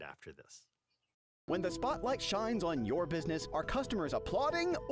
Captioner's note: voiceover